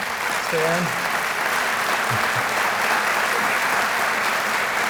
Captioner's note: applause